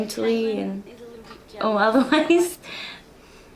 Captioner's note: laughs